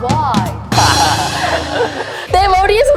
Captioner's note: laughs in pain